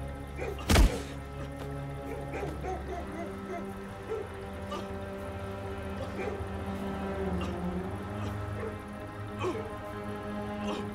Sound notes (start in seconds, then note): 5.8 Bao can be heard struggling to breathe